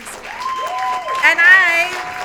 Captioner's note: audience applauding